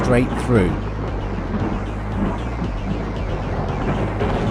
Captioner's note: thunder